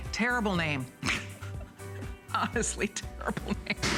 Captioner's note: laughter